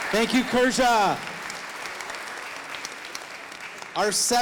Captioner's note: audience applauding